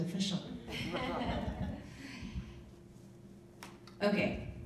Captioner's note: people laughing